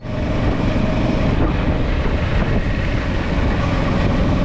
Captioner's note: air whooshing